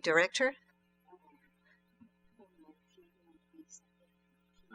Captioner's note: speaking french